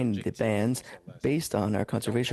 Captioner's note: speaking French